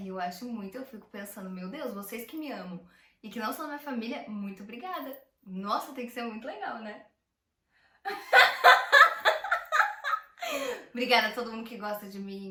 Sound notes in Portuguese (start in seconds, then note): 8.0 Risos